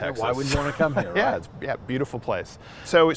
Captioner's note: laughing